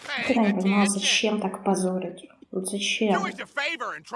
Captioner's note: хихиканье